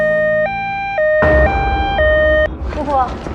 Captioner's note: ambulance